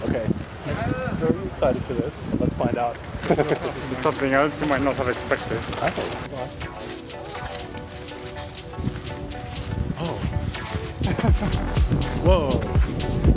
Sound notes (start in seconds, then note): 3.2 chuckles; 6.7 energetic music; 11.0 chuckles